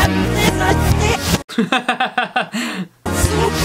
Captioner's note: laughter